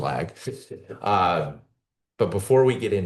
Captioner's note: laughs